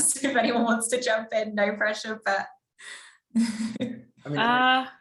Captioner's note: laughs